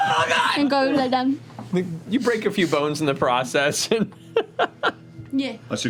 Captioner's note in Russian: кричит